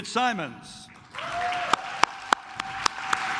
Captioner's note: claps